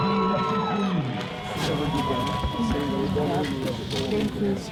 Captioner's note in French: La foule applaudit